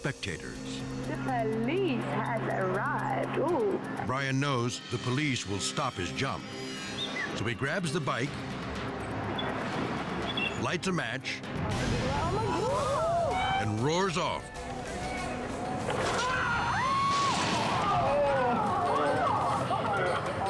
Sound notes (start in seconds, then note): 12.2 people cheering; 15.9 people screaming